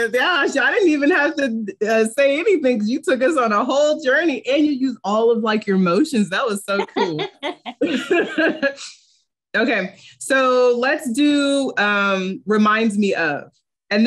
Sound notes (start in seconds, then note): 6.7 laughing